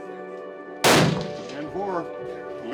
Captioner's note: gun banging